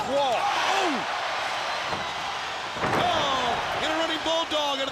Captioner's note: crowd cheering